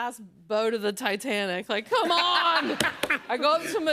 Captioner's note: laughter